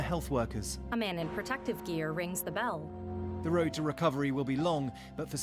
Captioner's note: bells ringing